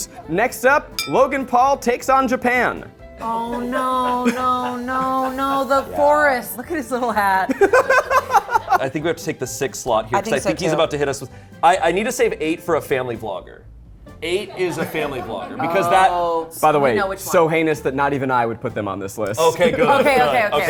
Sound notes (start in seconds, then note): 7.6 laughs